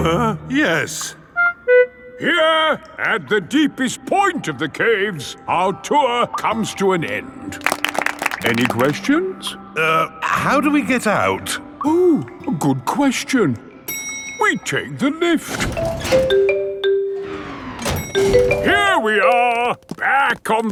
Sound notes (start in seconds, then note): 0.2 groans; 7.5 all clapping; 15.7 elevator dings